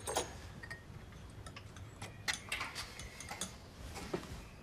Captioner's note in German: Kratzen